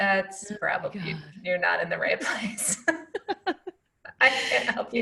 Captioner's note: laughing